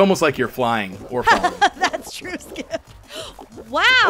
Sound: laughing

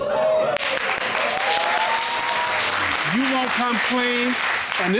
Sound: audience jeering and clapping

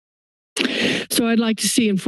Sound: inhales

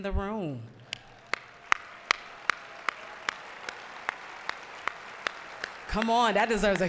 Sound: applause

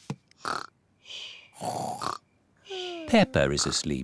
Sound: snores

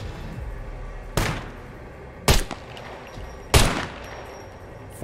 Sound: gunshots

